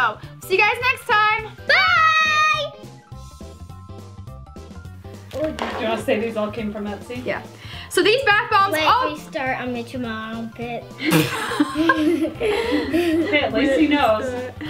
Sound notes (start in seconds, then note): 11.0 laughing